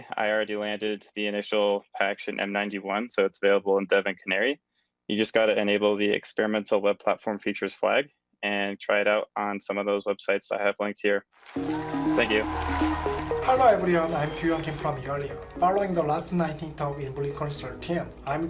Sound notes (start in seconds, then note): 11.4 cheers, applause